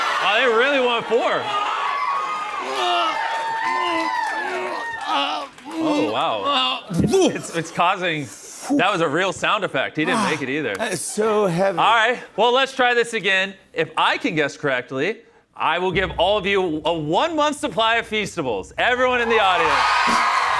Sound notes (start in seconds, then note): 4.0 grunting